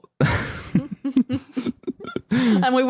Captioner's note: group chuckling